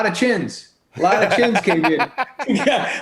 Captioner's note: laughs